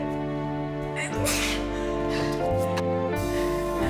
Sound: sneeze

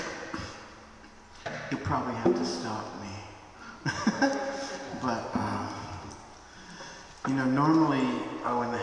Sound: giggle

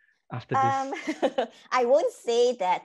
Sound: laughing

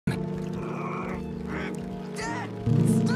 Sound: groans in frustration

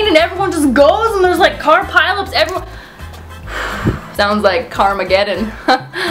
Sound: exhales; laughs

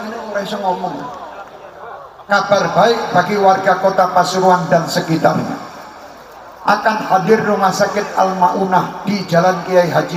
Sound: laughs

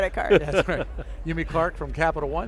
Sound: laughs

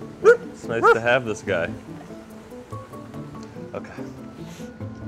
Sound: Spud barking

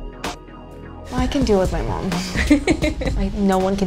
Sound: laughs

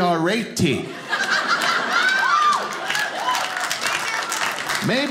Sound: audience laughing

